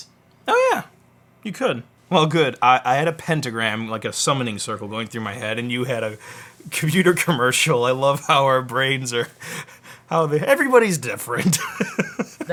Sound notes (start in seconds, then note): 9.4 laughs